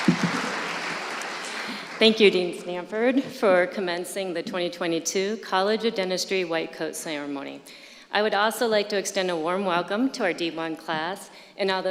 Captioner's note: applause